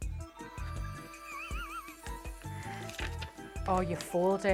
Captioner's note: laughs